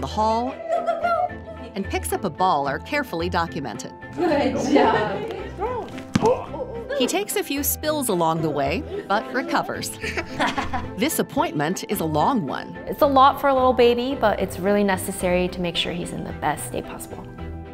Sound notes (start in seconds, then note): 5.8 ball thuds